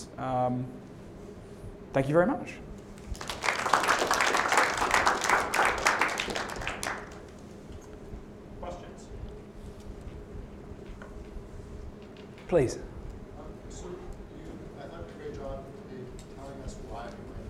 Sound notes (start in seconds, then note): 3.0 applause